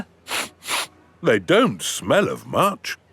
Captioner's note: sniffs